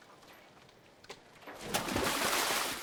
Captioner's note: none